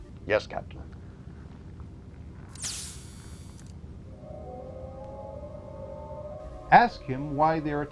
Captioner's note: hypospray Hiss